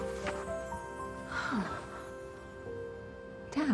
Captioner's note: sighing